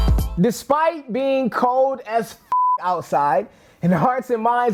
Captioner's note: beeps